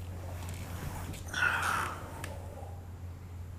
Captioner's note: exhaling